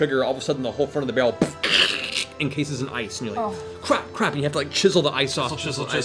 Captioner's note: cracking